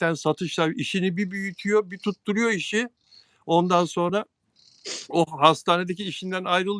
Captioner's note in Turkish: homurdanır